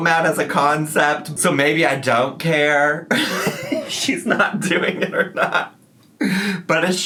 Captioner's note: laughs